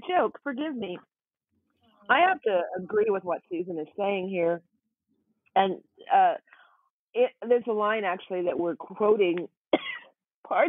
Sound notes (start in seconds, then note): 9.7 coughs